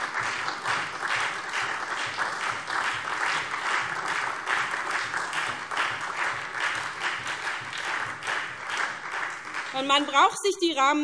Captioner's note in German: Beifall SPD und DIE LINKE